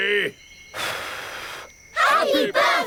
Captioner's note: blows